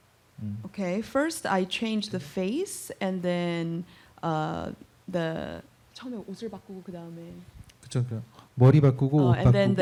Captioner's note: speaking korean